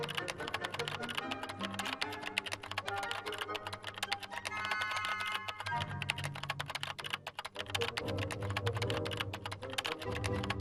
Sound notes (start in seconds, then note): 0.0 suspenseful music; 0.0 keyboard clanking